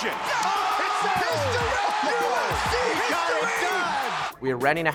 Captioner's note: audience cheers and applauds